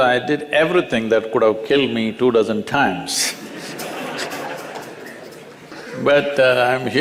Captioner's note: laughs